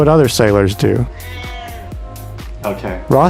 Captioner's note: meow!